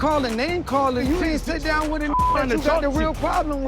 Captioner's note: beep